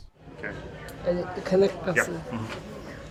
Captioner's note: non-english